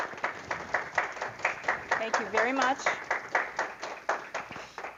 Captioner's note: applause; applause